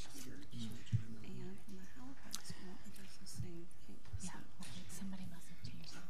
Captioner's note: people murmuring